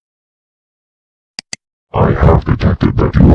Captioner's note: clicking